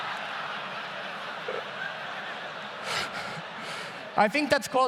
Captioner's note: audience laughs loudly; laughs